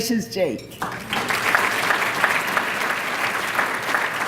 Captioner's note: applause